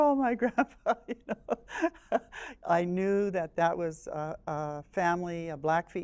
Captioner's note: laughs